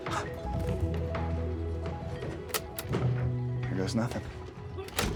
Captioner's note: Walter gasps; tapecorder clicks